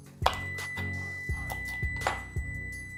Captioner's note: beep